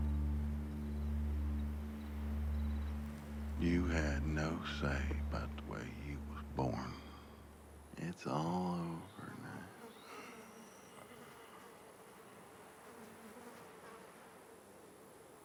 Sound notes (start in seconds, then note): 9.2 flies buzzing